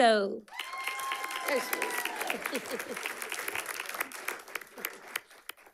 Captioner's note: audience clapping and cheering